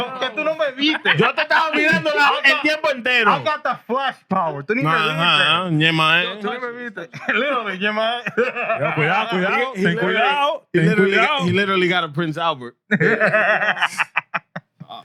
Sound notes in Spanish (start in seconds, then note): 5.6 Hablando en idioma extranjero; 8.2 Hablando en idioma extranjero; 8.2 Riendo